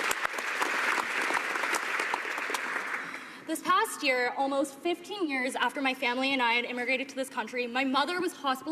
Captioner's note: applause